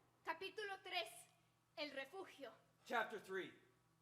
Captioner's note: speaking Spanish